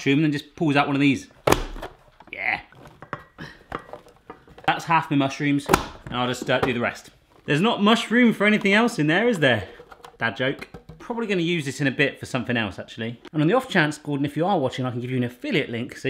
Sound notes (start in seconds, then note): 1.4 lid closes